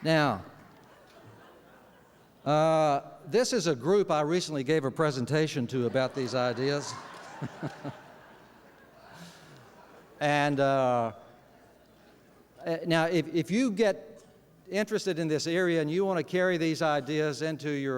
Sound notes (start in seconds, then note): 8.4 laughter